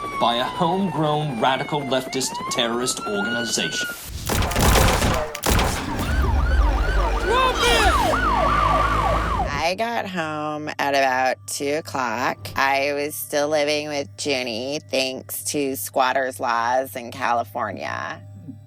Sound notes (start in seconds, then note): 4.1 gunshots; 5.4 sirens wailing